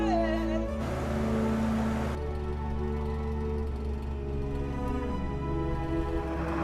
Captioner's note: calm music; engine revving